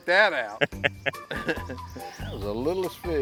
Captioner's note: laughter